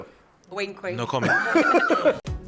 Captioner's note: laughter